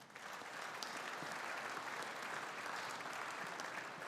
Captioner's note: audience applauding